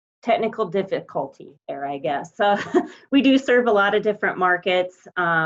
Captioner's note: laughs